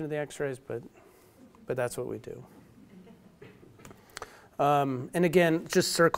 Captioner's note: audience laughs